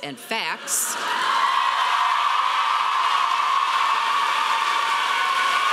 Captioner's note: audience applauding loudly